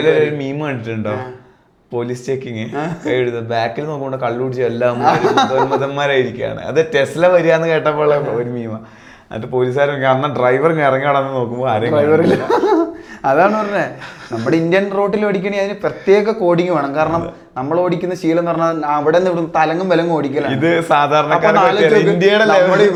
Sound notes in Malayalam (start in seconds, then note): 4.9 പൊട്ടിച്ചിരി; 12.2 പൊട്ടിച്ചിരി